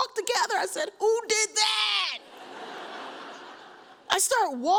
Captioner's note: audience laughs